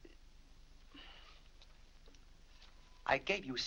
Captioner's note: sighs